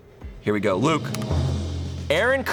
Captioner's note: tense music building; button clicks